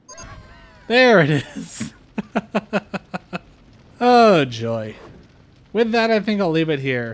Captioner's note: laughter